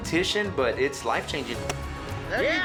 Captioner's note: chops wood